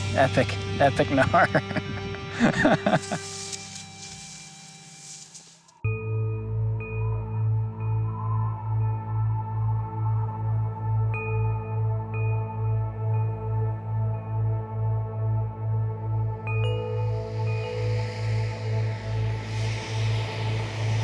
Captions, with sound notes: - Epic, epic gnar. (laughs) (wind howling) (ominous music)